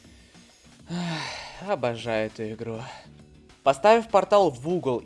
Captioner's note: sigh